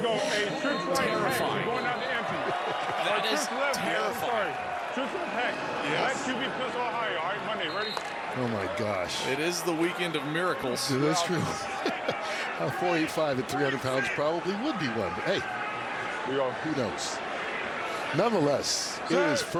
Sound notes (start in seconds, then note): 6.1 laughter